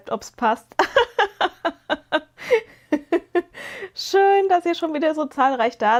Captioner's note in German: gelächter